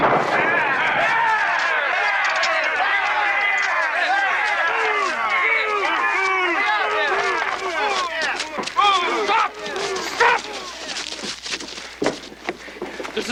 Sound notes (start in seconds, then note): 0.8 Aplausos